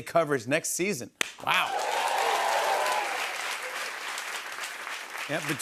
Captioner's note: cheers and applause